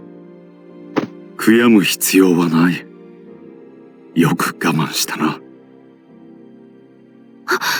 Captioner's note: pat